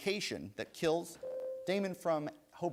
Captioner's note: bell rings